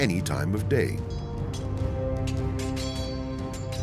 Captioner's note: swords clanging